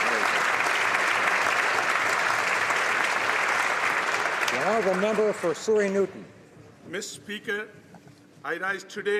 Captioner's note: applause